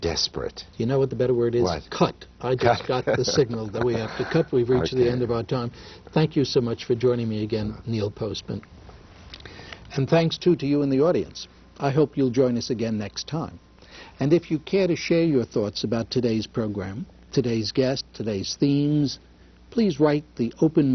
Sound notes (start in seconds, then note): 2.8 laughter